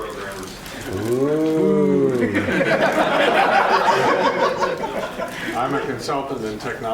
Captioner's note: laughter